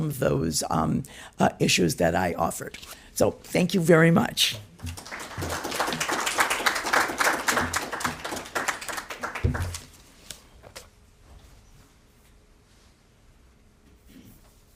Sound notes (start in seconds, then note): 4.8 audience applauding